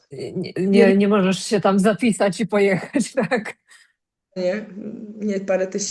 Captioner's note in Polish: śmiech